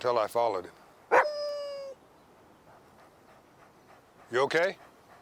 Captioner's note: Buck barks